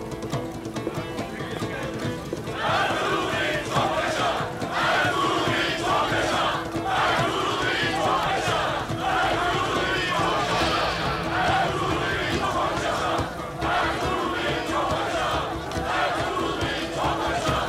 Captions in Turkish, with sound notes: (Hep bir ağızdan) Ertuğrul Bey'im çok yaşa! (Hep bir ağızdan) Ertuğrul Bey'im çok yaşa! (Hep bir ağızdan) Ertuğrul Bey'im çok yaşa! (Hep bir ağızdan) Ertuğrul Bey'im çok yaşa!